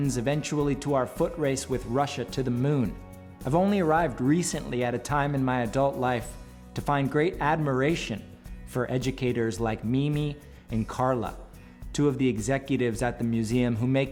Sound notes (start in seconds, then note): none